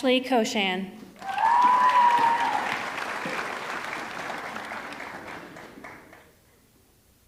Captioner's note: audience cheering; audience clapping